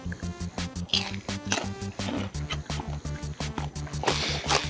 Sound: Takeru speaks Japanese; playful music continues; Joey munching; Takeru munching

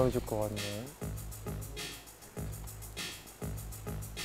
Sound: heartbeat

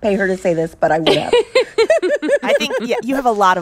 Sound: laughter

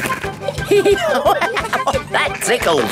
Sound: laughing; giggling

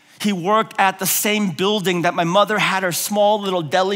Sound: none

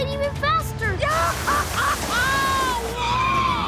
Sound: screaming

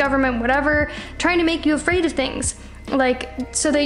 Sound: none

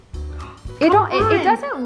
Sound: grunts; gasps

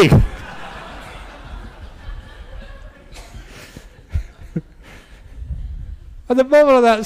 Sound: laughter

